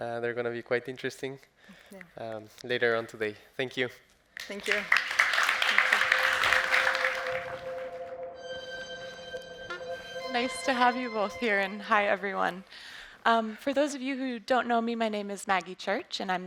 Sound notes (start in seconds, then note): 4.4 audience applauds; 6.3 suspenseful music